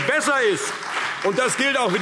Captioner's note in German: Beifall CDU und BÜNDNIS 90/DIE GRÜNEN